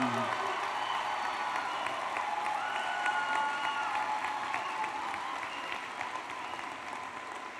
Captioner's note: applause and Cheering